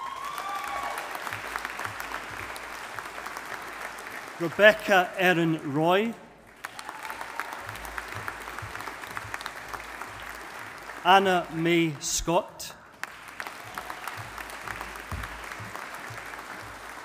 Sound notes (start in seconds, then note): 0.0 audience applauding